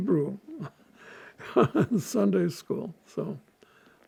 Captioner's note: laughing